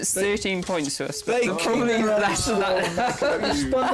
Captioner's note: chuckles